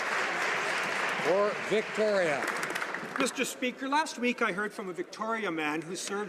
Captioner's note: applause